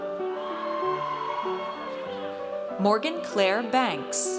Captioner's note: audience cheers